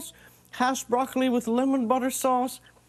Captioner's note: none